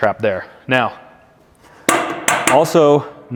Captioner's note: side tub clanging